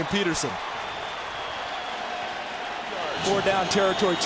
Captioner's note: crowd cheering